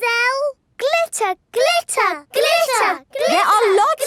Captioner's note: chanting